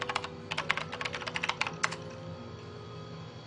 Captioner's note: computer keyboard